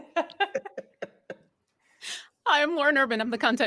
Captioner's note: group laughing